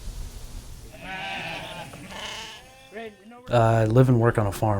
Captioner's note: sheep cries